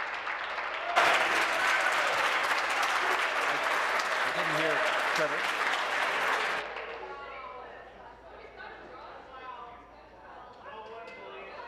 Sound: applause

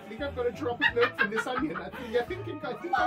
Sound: maniacal laughter

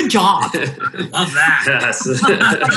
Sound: laughing

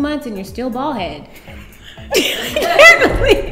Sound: laughs

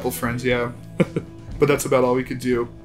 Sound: laughs

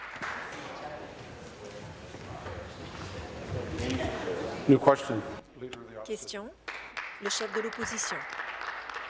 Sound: applause

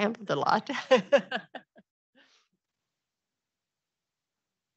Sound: laughs

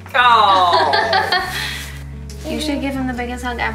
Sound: laughs

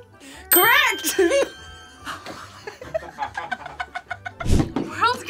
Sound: laughs

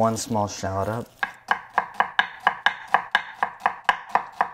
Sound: chopping

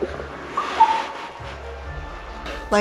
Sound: blup blup

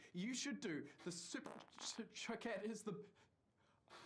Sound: Zach farts

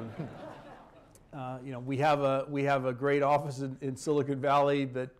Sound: laughter

